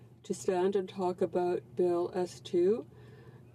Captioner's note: speaking French